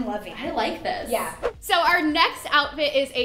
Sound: whooshing

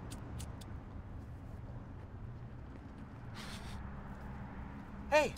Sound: lighter striking

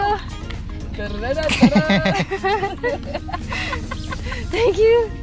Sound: laughter

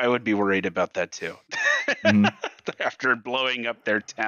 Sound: laughs

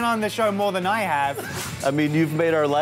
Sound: whoosh

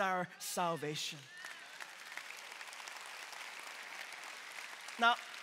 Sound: congregation clapping

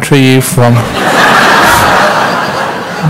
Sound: laughter

